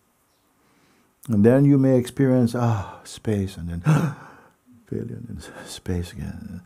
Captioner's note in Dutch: hapt naar lucht